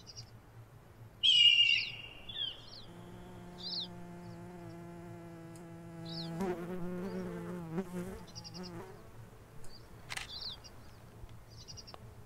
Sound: hawk crying. Birds chirping. Insects buzzing

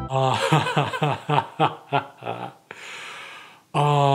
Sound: upbeat music plays; laughs

